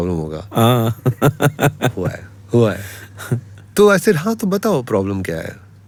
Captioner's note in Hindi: हंसी